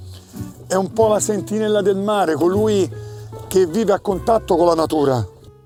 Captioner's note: continues speaking Italian